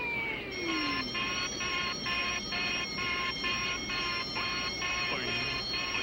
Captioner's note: alarms wailing aggressively